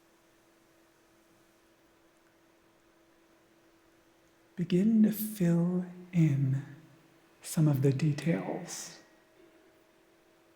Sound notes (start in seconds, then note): none